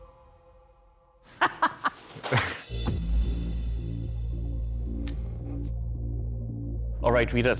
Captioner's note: laughs